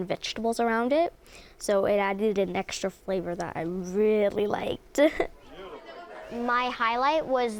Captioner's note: chuckle